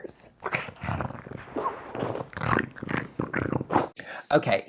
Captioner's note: growling